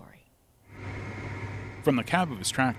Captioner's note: tractor hums